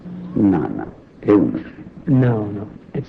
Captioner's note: speaking foreign language